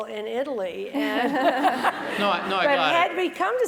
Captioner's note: laugh